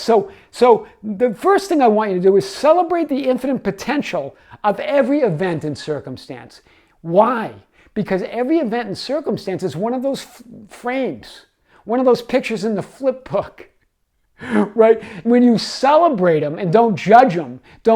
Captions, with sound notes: So the first thing I want you to do is celebrate the infinite potential of every event and circumstance. Why? Because every event and circumstance is one of those frames, one of those pictures in the flip book. (laughs) Right? When you celebrate 'em and don't judge 'em,